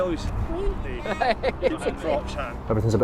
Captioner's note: camera person laughing